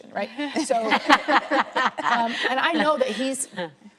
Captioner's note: laughing